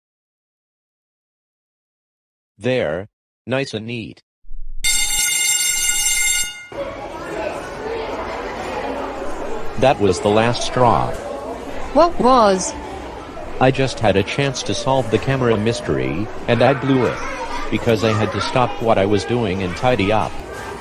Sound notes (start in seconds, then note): 4.8 school Bell Rings